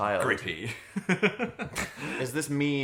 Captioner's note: Dan and Phil laughing